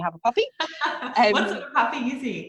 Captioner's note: laughs